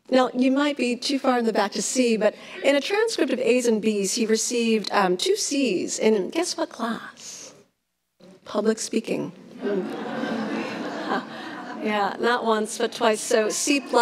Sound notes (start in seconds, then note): 9.6 laughs